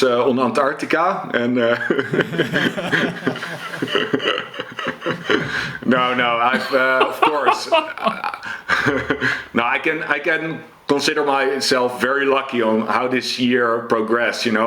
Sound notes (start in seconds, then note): 1.4 laughs; 7.8 laughs; 9.1 chuckles